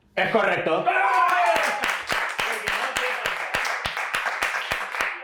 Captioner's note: applause